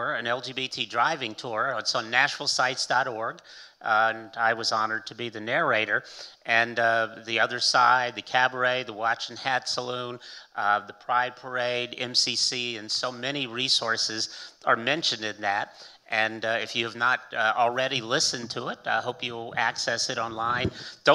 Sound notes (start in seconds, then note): none